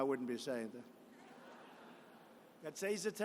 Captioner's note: laughter